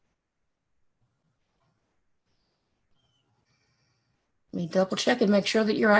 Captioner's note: mouse clicks